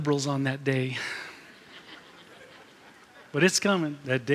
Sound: laughter

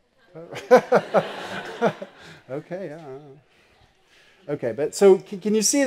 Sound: laugh

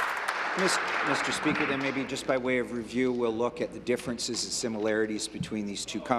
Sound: applause

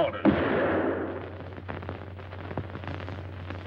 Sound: gun fires

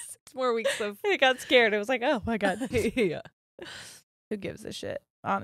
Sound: both laughing

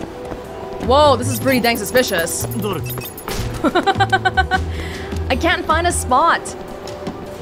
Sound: laughs

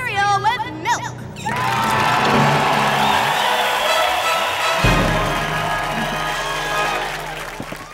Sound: crowd cheering

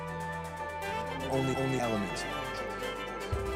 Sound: echoing

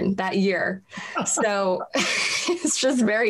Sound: laughs

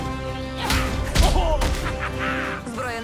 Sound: laughs; grunting

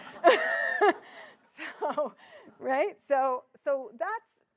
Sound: audience laughing

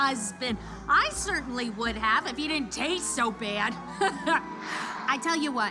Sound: laughs

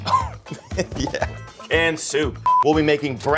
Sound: laughs

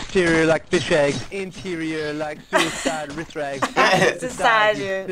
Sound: both laugh

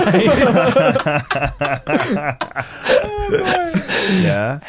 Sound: laughing

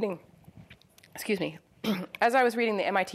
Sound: clears throat

